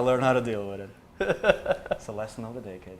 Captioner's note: laughs